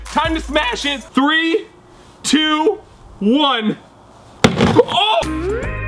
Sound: hammer bang; tropical music

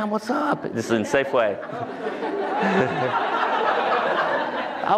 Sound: laughter

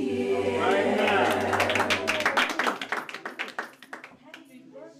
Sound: clapping

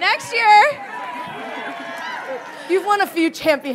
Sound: audience cheering

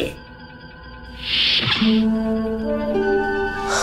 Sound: door opens

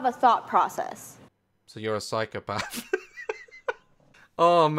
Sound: laughs

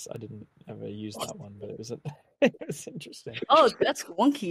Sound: laughs

